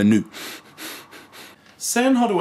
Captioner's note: frustraded breathing